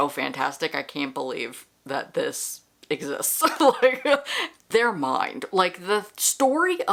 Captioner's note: laughter